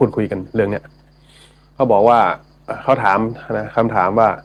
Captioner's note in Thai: เสียงสูดหายใจ